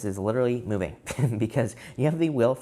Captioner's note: laughs